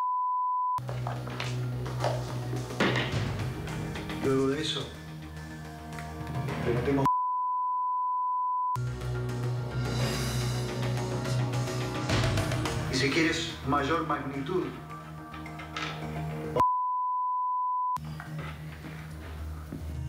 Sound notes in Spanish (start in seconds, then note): 0.0 Bip; 9.4 Bip; 16.6 Bip